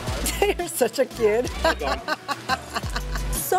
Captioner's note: laughs